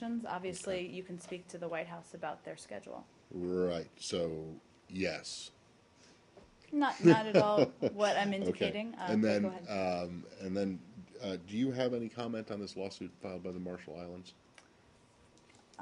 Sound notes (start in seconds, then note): 5.4 laughter